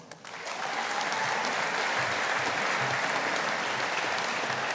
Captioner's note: audience applauding